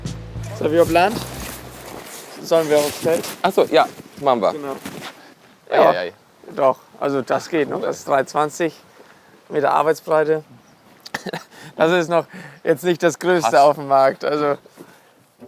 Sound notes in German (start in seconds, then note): 11.0 lacht